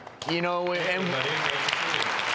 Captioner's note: applauding